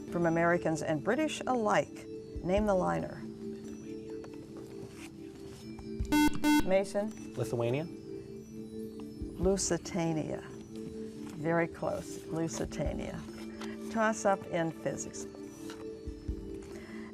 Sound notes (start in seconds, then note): 3.9 whispering